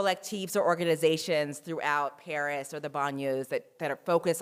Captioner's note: french